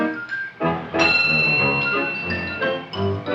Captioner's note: light chimes